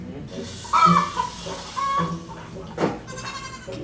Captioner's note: chicken squawks; chicken frying